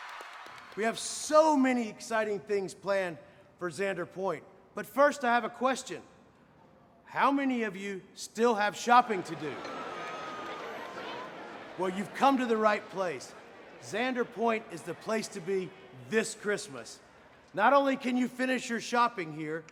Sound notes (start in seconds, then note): 0.0 audience applauding; 0.0 audience cheering; 9.0 all clamoring